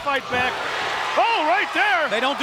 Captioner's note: audience cheers